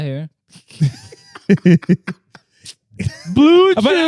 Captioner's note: laughing